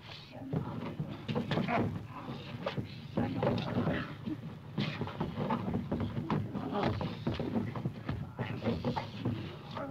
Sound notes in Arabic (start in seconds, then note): 2.0 الرجال يتأوهون